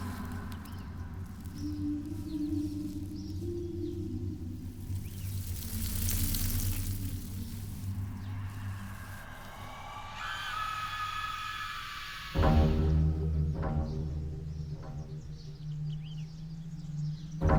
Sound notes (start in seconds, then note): 9.5 dark, ominous music; 10.2 woman screams